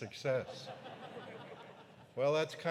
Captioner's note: audience laughing